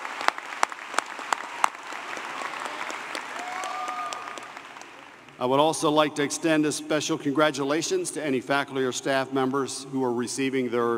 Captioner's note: applause